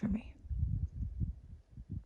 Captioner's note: wind blows